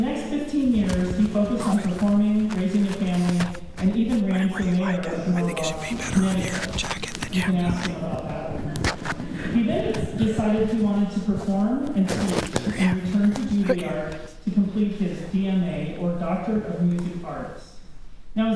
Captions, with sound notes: For the next 15 years, he focused on performing, raising a family, and even ran for mayor of Norwalk, Connecticut. You can ask him about that one [laughter]. He then decided he wanted to perform and teach and returned to Juilliard to complete his DMA, or Doctorate of Music Arts.